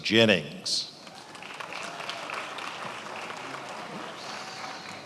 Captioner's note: attendees applauding